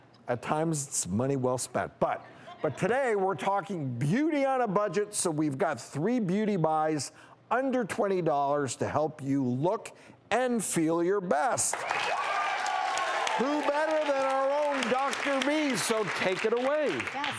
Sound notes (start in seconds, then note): 11.6 audience claps and cheers